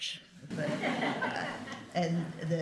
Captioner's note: laughter